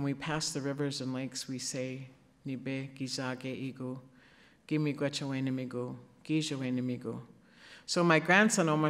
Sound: speaking Ojibwe; speaking Ojibwe

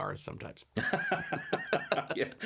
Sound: laughs

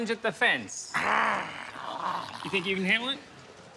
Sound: growling

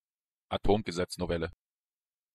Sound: fast Pronunciation

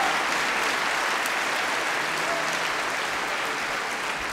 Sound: applause

